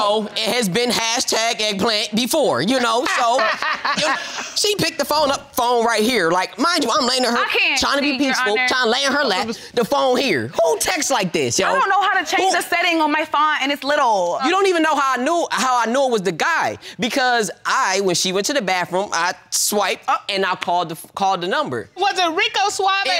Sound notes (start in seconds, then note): 4.5 judge laughing